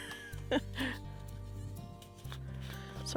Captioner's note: laugh